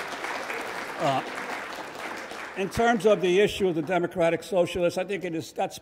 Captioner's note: audience applauds